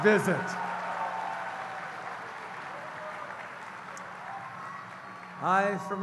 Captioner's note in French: Acclamations et applaudissements